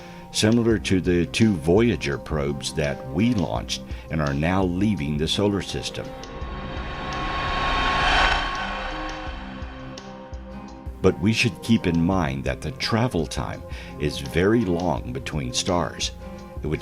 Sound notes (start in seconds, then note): 5.6 air whooshing